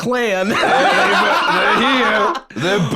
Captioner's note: laughs